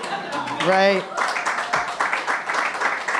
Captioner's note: laughter